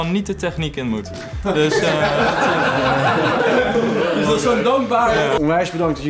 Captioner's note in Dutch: gelach